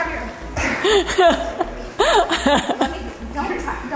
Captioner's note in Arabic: يضحك كريستال